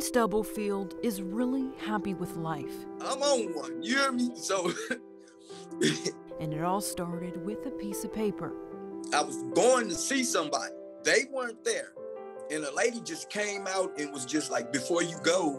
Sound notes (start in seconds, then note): 3.8 laughs